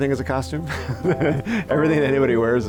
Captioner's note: laughing